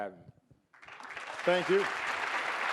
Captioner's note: audience applauding